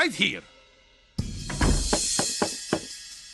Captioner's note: knocking